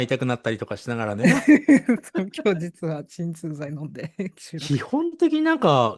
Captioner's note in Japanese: 笑い